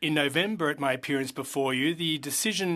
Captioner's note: speaking French